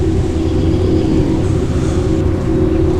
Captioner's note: whispers